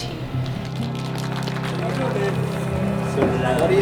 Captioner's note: applause